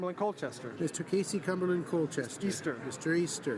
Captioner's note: none